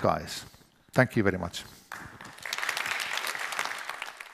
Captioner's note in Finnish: Applause